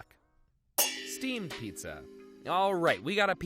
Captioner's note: metal clangs